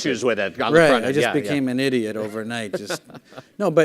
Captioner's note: laughing